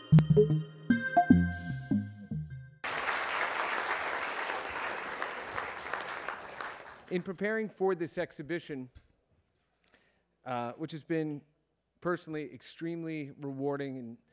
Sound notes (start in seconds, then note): 0.0 theme music; 2.8 applause